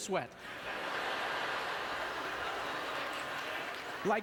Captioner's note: audience laughter